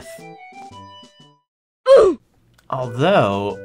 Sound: Roblox death sound

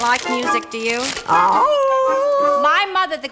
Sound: howl

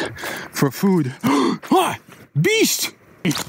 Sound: gasps

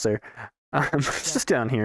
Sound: laughs

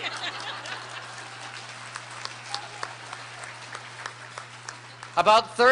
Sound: laughter

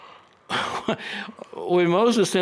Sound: chuckles

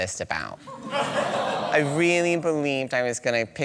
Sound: audience sighs

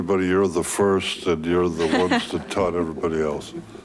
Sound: chuckling

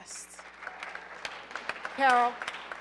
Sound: audience applauding

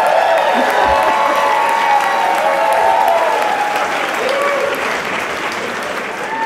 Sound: applause

